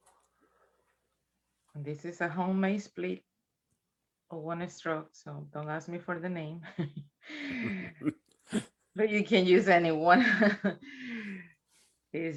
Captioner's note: chuckles